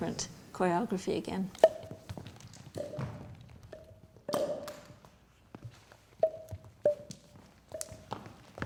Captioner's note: popping sounds